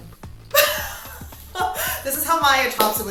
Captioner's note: laughing